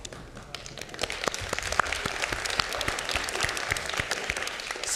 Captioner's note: audience clapping